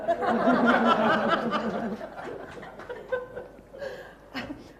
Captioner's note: laughter